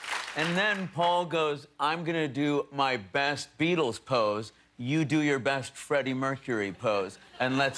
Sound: applause

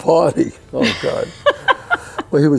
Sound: laughing

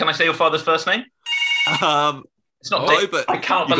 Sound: phone rings

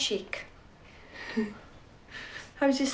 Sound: she chuckles

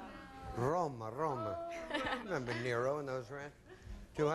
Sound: in Italian accent

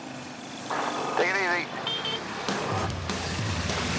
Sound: beep beep

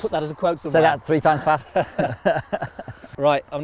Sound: everybody Laughs

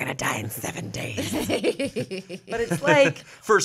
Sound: everyone laughs

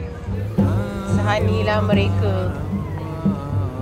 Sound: laugh

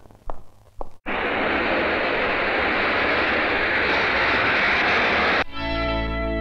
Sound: tires screeching

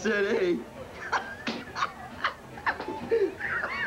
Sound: laughter

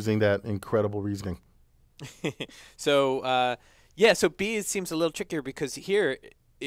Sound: laugh

